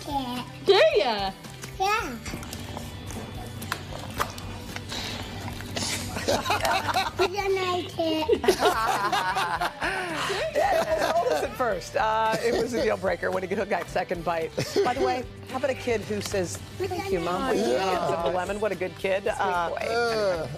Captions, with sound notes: >> WANT A LEMON? >> THANK YOU. I LIKE IT! >> DO YOU? >> YEAH. [ LAUGHTER ] >> I DON'T LIKE IT. >> I DON'T LIKE IT. >> IT WAS A DEAL BREAKER ON THE